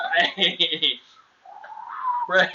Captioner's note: laughter; whistling noise